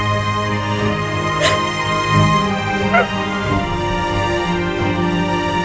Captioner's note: Cries